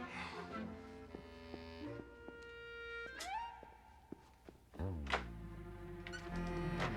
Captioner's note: sigh s